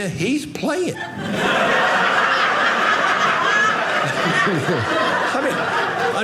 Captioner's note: audience laughing